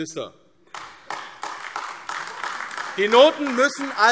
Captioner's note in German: Beifall AfD